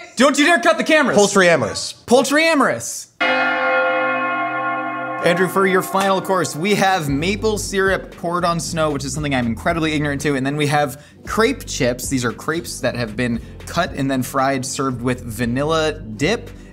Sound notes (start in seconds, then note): 3.2 bell Rings